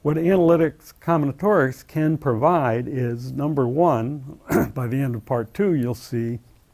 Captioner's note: cough